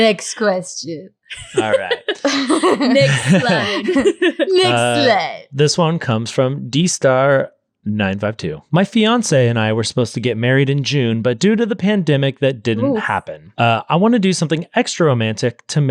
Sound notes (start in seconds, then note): 1.3 laughing